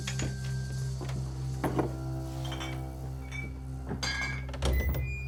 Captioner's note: suspense music; coins, mugs clanking; doors creak open